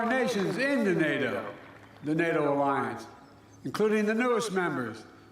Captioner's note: applause